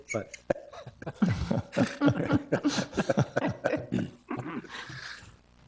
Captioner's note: board members laugh